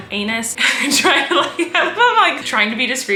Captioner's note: laughing